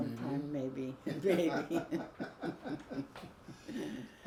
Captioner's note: both laugh